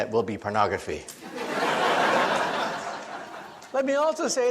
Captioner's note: audience laughs